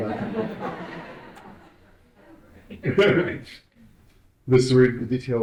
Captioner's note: audience laughing